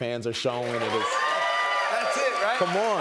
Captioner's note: cheers and applause